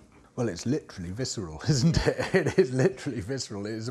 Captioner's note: laughs